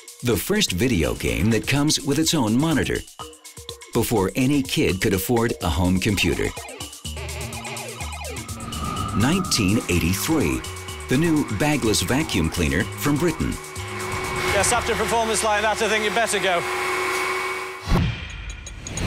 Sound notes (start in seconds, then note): 7.2 game beeping; 13.7 vacuum whirring